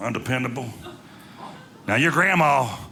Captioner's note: audience laughing